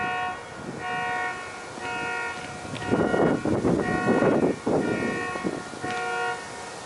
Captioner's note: wind howling; leaves rustling